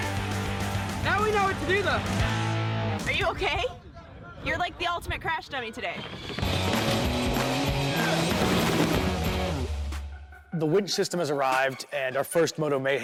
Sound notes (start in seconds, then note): 3.7 laughs; 6.4 rock musical flourish